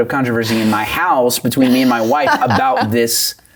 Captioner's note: laughing